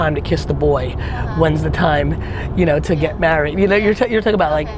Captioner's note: laughs